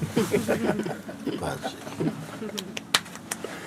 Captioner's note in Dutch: gelach